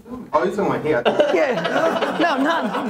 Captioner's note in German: Lachen